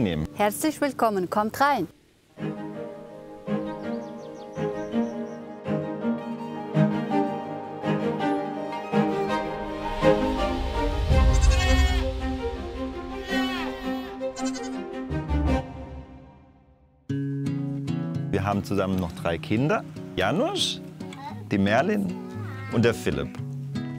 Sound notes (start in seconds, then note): 5.7 birds chirping; 11.2 goats bleat; 17.0 soft guitar music